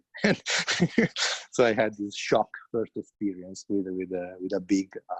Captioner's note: laughs